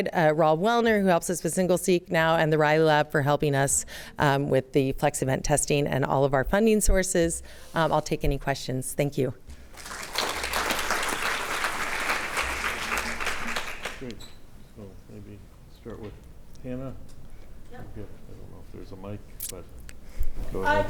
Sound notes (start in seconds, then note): 9.6 applause